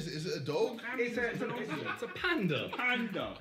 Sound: distant laughs from 'Behzinga' and cameramen

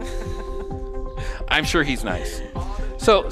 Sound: laughing

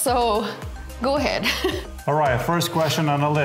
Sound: chuckling

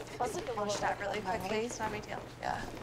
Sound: indistinct chatter

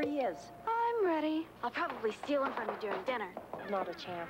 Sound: sing-song; hurried footsteps of both; door creaks

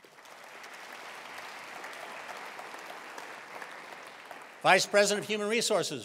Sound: attendees applauding

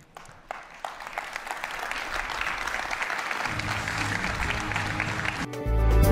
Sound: audience clapping; soft music

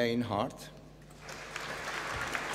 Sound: applause

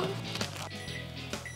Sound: microwave beeping

